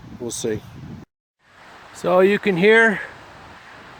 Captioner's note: wind blowing loudly in background